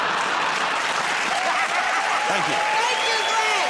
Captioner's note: laughter and applause